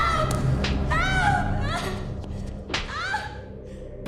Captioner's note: slapping; slaps; sobbing, screaming